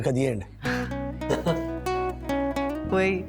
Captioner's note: chuckles